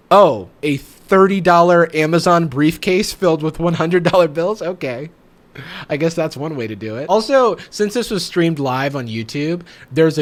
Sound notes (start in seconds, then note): 4.4 laughs